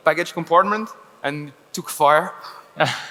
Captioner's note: laughs